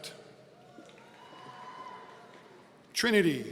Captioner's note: audience cheering